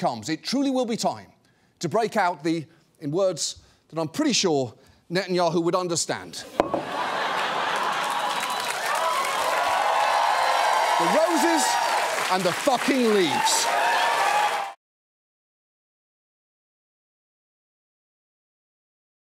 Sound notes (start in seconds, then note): 6.6 audience laughs, cheers; 13.6 audience cheers, applauds